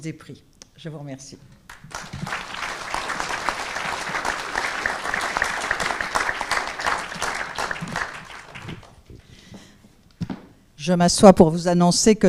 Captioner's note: applause